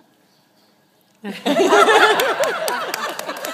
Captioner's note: laughter